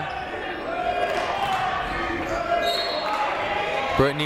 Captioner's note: people shouting in the crowd